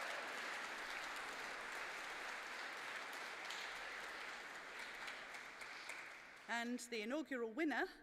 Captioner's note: applause